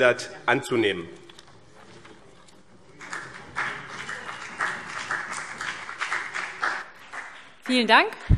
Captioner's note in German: Beifall CDU